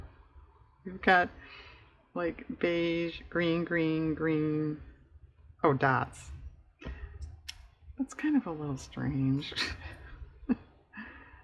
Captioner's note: laughs